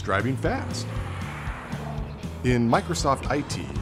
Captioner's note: car engine revving